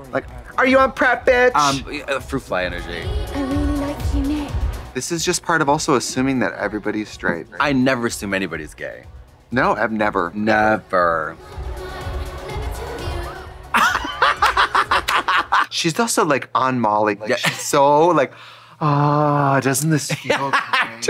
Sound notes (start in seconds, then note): 11.4 upbeat music; 13.7 both laughing